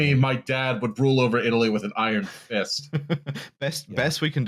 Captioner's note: chuckles